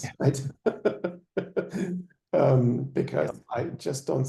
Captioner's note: laughing